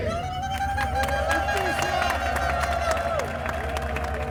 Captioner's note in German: Applaus